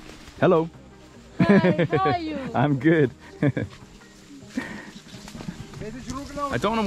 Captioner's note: laughs